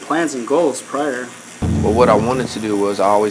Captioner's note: buzzing